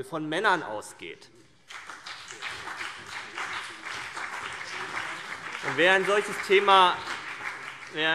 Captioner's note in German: Beifall CDU, BÜNDNIS 90/DIE GRÜNEN, vereinzelt SPD und DIE LINKE